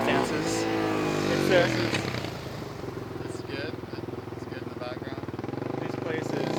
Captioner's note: engine revving